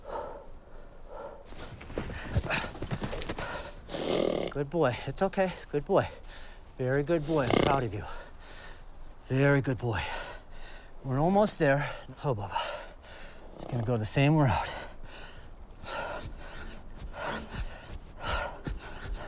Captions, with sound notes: (Samson snorts briefly) Good boy. It's okay. Good boy. Very good boy. I'm proud of you. Very good boy. We're almost there, huh, Bubba? We're just going to go the same route.